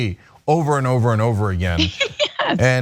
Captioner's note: laugh